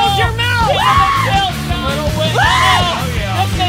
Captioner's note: energetic music; group laughing